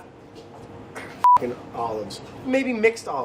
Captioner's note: beeping